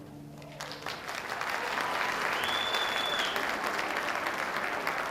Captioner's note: audience applauding